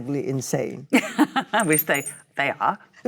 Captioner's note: Cate laughs